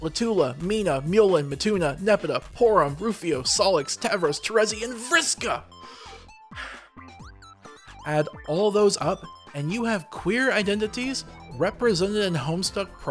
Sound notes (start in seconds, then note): 5.8 deep breath